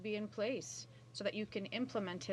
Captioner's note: speaking French